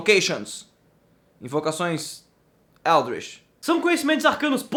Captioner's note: questionable portuguese translation going on